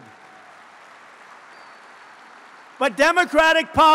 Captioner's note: applause